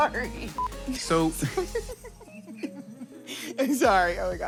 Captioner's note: laughing